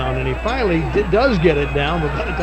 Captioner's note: audience cheering; bell ringing